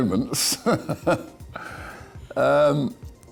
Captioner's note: laughs